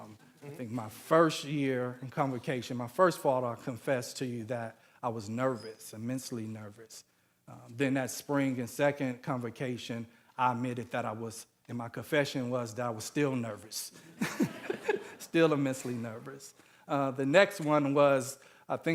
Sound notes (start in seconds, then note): 14.2 audience laughing